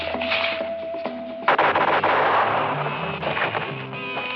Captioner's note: gunshots